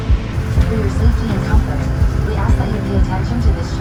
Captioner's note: voiceover